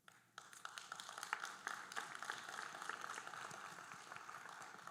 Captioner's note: audience applauding